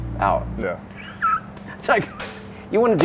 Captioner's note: chuckles